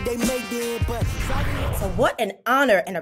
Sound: whooshes

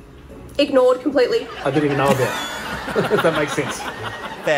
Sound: laughter

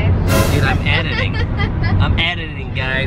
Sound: laughs

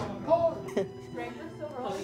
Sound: laughing

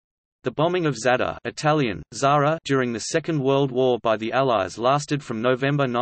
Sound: Italian: Zara

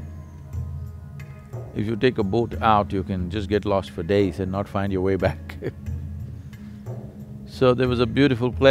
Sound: laughs

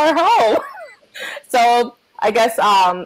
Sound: laughs

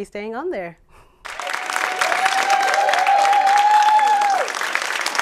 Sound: applause

